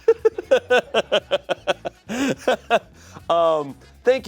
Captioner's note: laughing